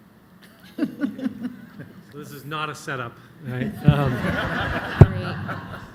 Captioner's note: laughter